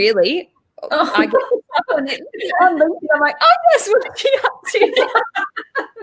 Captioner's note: both chuckle